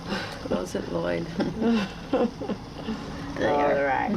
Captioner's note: chuckles